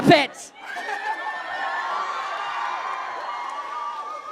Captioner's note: crowd cheers